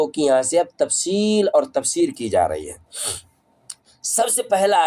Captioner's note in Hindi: नाक से की जाने वाली आवाज़